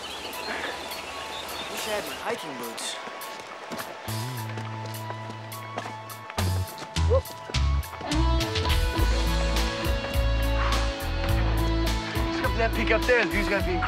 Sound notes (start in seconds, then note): 7.1 upbeat music playing; 9.4 exhales sharply